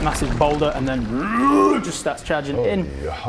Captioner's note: rwwwrgh